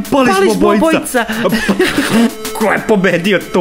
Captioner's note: they laugh